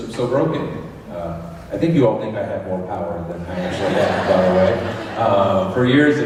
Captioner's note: laughter